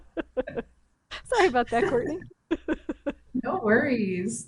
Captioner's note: laughs